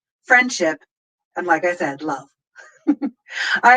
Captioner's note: laughs